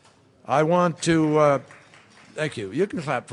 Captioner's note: applause